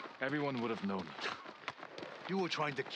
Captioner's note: laugh